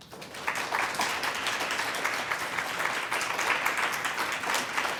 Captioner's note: applause